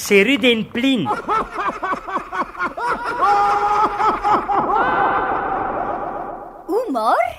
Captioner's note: laughter